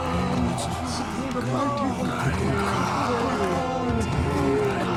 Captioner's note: people chanting